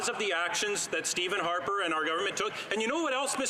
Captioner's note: some Applause